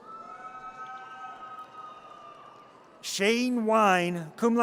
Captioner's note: audience cheers